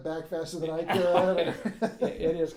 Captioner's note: laughing